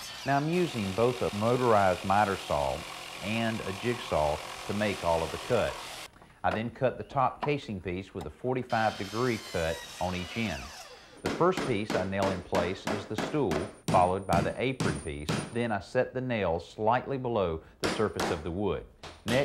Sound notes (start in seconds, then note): 14.8 hammer thumping